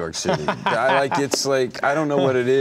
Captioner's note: laughing